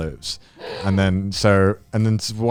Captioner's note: gasping